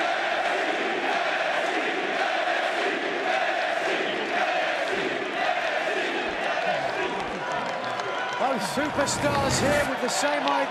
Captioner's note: crowd cheering